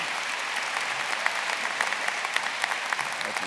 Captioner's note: applause